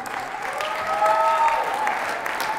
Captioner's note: whooing